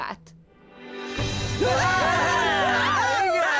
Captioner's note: cheering